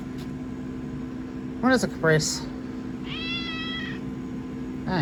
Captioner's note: Caprice meows